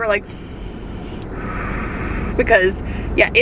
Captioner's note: breathes deeply